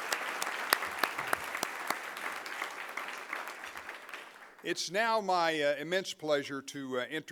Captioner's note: applause